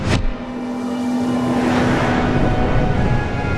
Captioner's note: device hums